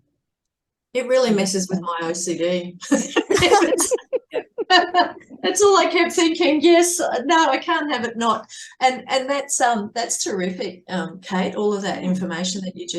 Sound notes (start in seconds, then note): 2.9 everyone is laughing